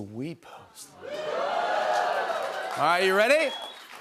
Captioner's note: cheers and applause